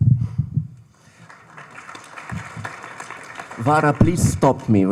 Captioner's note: audience applauding